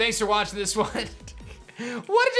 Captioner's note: giggles